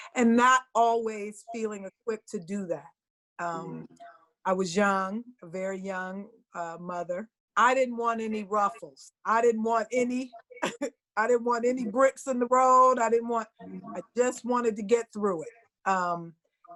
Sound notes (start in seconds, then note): 10.4 chuckles